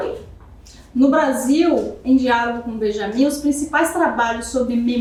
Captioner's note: speaking portuguese